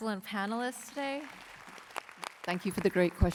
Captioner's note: applause